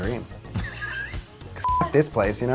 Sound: laughter

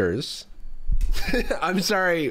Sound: laughs

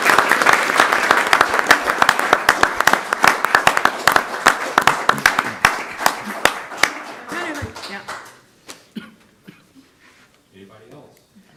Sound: applause

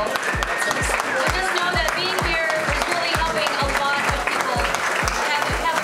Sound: applause

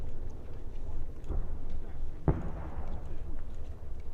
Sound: far cannonade

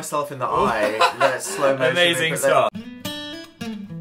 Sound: laughs

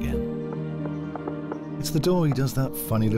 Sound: rhythmic knocking

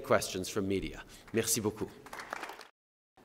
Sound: applause

